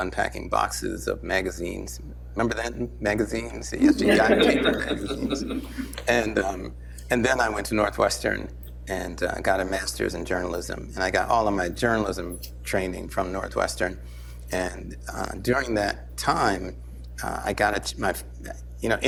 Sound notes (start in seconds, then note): 3.8 laughter